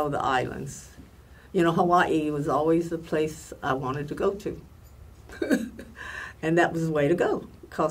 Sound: laughs

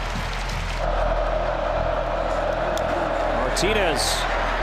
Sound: crowd cheering

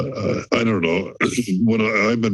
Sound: clears throat

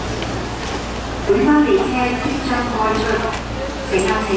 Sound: Cantonese

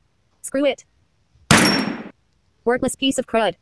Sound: gun shot

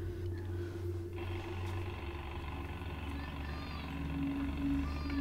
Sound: jackhammer construction begins outside the apartment

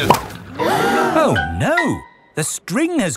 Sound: all gasp

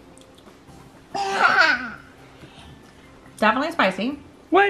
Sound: laughing

